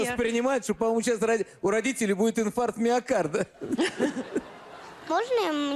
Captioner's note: laugh